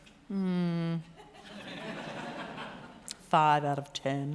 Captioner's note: crowd laughter